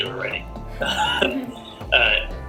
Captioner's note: laughs